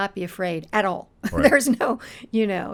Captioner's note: laughing